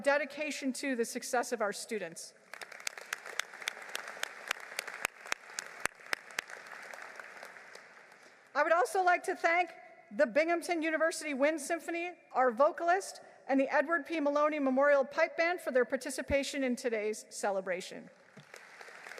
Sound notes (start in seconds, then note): 7.0 applause